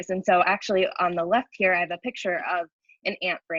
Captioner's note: none